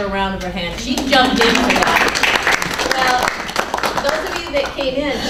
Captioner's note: clapping